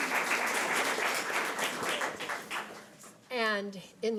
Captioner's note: audience applause